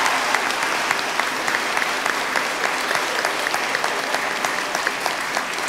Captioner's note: applause